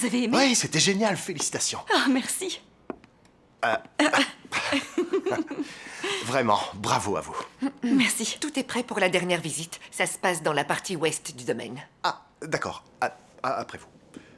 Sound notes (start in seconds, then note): 4.0 laughs